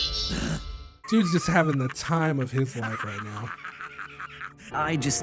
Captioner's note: Ryuk laughing